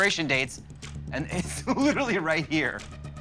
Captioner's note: chuckling